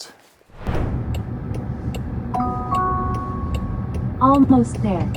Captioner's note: indicator clicking; automated Voice